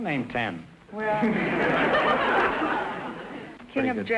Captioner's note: audience laughter